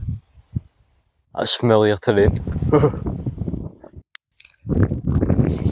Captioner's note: sarcastic Laughter